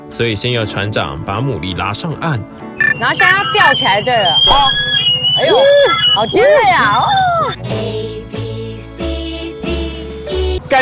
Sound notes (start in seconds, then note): 2.8 !!screeching alert!!